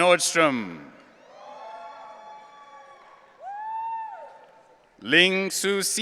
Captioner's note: audience cheering